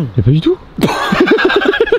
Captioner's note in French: rires